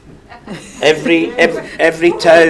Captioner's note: audience laughs